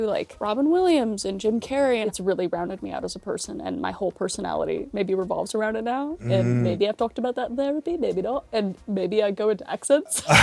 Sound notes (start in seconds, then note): 6.6 Scottish accent